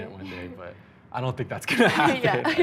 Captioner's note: laughing